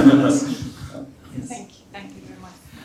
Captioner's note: laughter